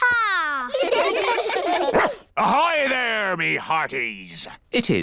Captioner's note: all giggle; barks